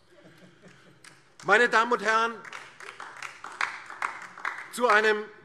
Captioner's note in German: Beifall DIE LINKE